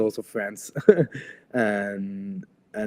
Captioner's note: laughs